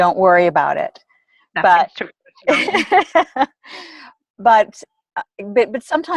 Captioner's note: laughter